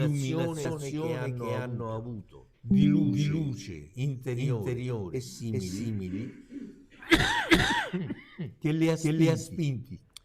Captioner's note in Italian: risate